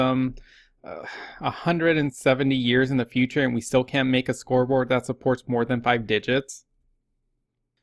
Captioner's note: sigh